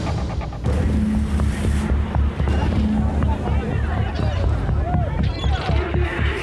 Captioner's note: tense music; customers chattering